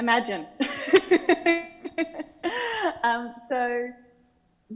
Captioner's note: laughing